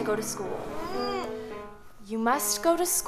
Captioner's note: Alice groans